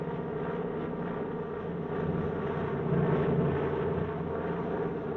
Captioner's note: aircraft droning